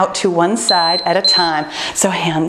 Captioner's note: timer beeping